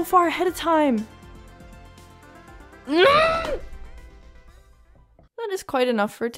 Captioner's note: frustration noises